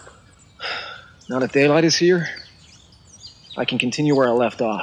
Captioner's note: sighs